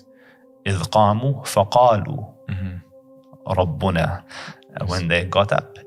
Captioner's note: Arabic